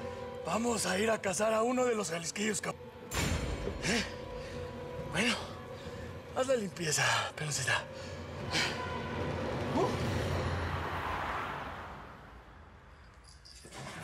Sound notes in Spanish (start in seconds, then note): 10.9 ruidos del tráfico